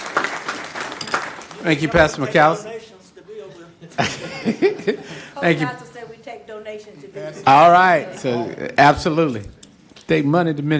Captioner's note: applause